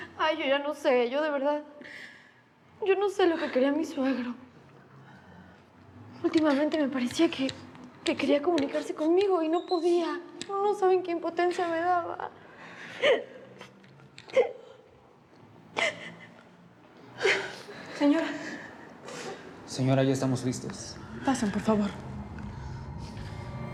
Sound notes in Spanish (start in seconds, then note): 14.2 Sollozos